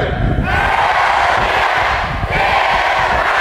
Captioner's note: crowd cheering; crowd